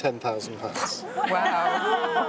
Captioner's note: crowd applauds